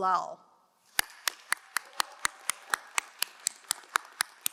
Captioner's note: crowd applauding